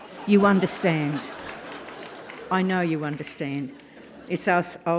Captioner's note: laugh